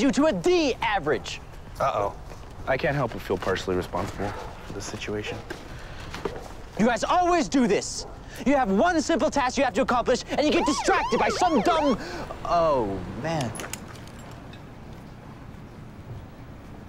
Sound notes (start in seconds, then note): 10.4 sirens